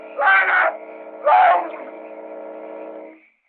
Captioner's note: gurgling